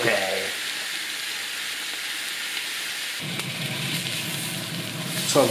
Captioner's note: sizzlin